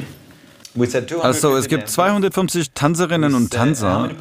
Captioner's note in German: englisch